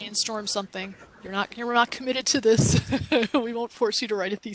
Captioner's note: laughs